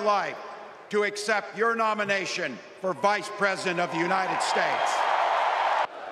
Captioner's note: applause